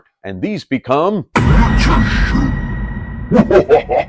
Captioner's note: dramatically